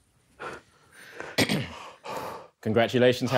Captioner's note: clears throat